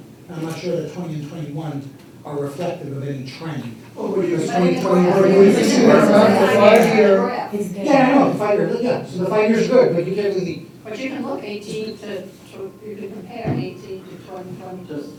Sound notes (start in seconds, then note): 3.9 all chattering